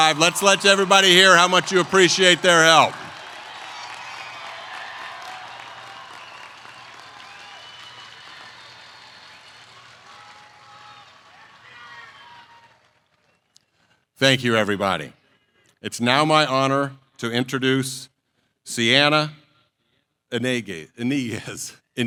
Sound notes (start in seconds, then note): 4.3 applause